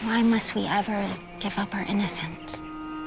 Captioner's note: birds chirping; calm music playing